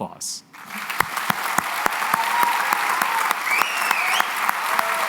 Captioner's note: cheering and applause